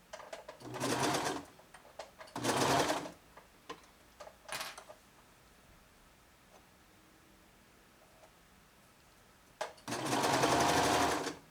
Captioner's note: sewing machine noises